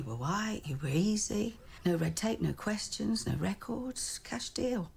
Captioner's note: none